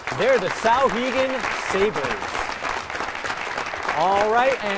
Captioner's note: applause